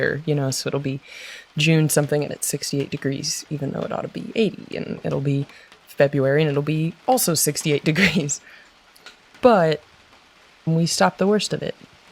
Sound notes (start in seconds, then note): 7.9 laughs